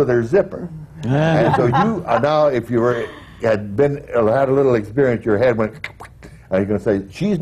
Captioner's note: laughter